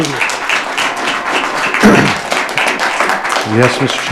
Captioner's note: audience applauding